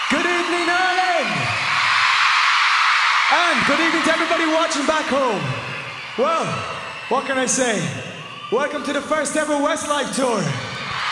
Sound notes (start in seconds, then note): 1.8 crowd cheers